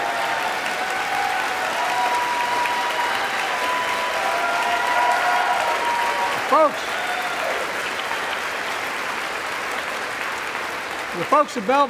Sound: applause

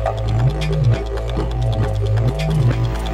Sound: mythical music; dinosaur croaking

